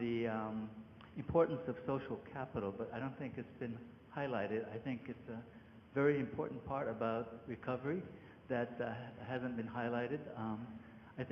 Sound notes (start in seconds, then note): none